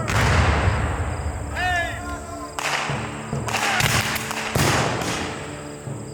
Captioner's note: guns fire